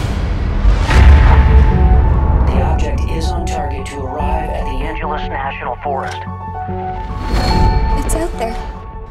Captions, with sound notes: [Voice over the phone] The object is on target to arrive at the Angeles National Forest. It's out there...